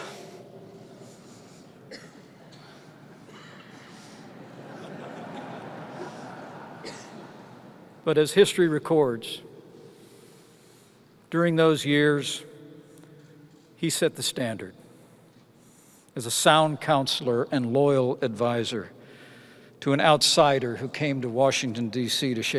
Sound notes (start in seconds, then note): 1.3 laughter